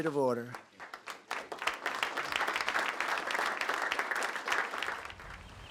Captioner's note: applause